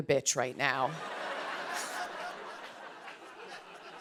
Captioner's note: laughter